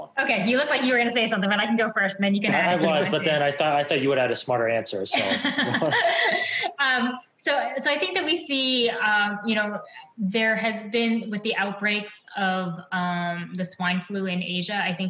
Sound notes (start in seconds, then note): 5.7 laughs